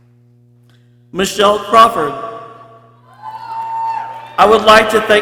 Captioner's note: people cheering